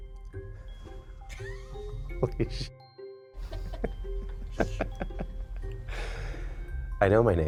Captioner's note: laughs